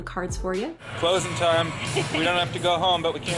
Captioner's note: laughs